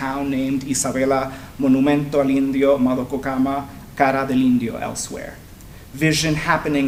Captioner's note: speaking spanish